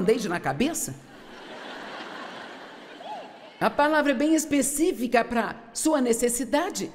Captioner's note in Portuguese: audiência ri